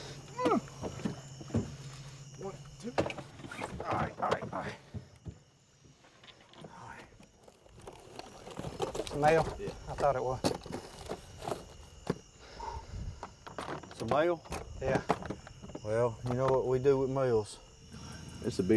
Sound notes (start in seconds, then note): 0.3 grunting; 3.4 canvas squeak; 12.5 sigh